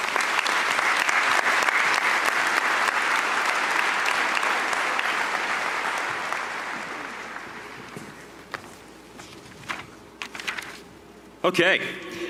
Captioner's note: applause